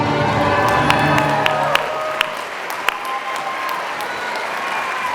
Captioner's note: applause